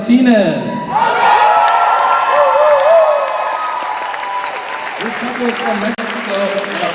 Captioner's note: cheers and applause